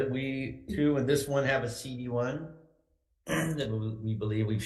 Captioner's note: clears throat